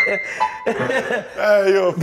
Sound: laughter

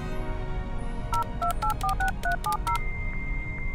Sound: boop boop boop; dial-up modem connecting

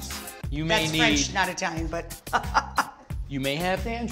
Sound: laughs

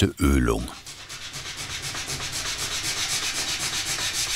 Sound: wiping grinding noises

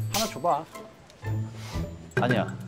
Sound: gasp

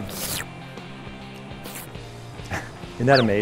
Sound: licking sounds

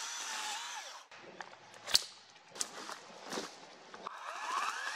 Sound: branches snapping, footsteps; chainsaw running

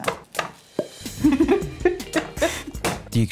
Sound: laughs

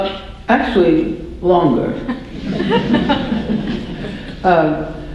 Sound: audience laughter

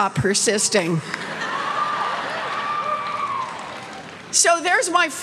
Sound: laughter and cheers

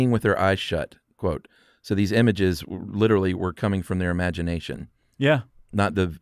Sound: none

